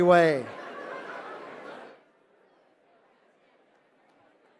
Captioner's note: laughter